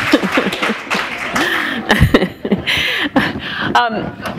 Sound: laughter; applause

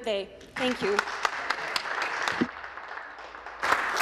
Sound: speaking Alternate Language; some Applause

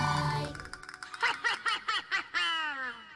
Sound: evil laughter

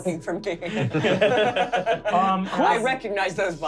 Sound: laughing

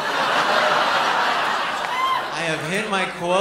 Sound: laughter

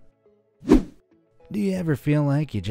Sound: air whooshing

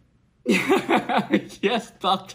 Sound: nervous laugh

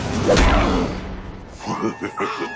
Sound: laughs

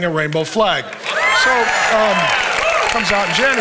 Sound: congregation cheering and applauding

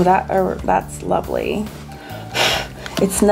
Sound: blows

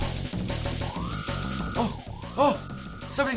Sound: shrill warning

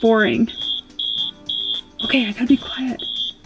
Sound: alarm beeping

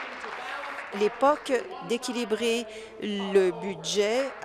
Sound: applause

